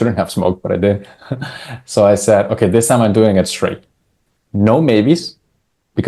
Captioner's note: laughs